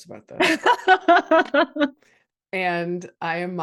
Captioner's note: laughs